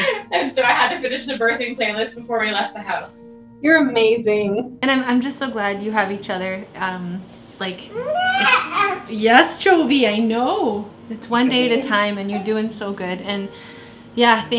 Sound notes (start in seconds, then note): 0.0 laughs; 7.9 baby cries